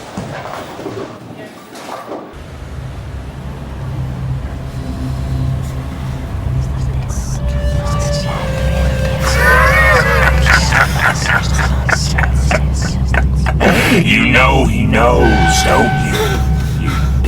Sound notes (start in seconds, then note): 3.8 ghostly whispering; 9.3 demonic cackling